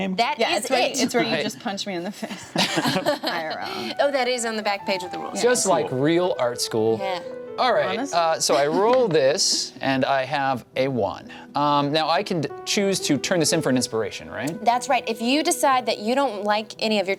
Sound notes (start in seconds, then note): 2.3 laughs